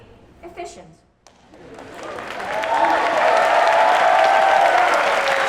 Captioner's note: applause, cheers